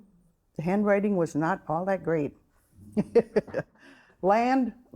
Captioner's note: chuckling